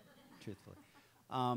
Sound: audience laughs

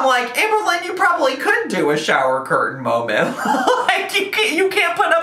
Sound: laughs

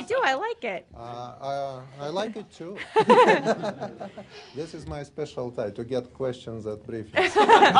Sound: laughter

